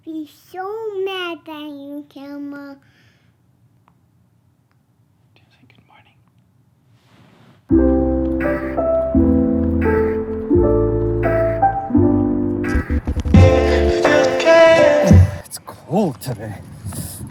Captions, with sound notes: Be so mad at you, camera. - (whispers) Did you say good morning? (soft music) It's cold today.